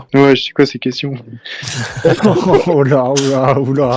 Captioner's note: laughs